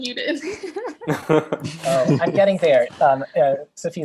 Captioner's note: laughing